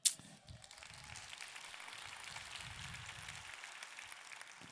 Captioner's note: audience clapping